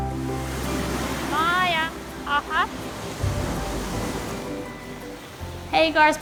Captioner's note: speaks in foreign language